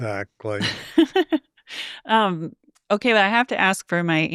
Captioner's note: laughs